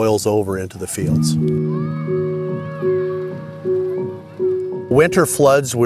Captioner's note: gentle music; child shouting